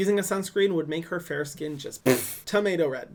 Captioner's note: mouth sounds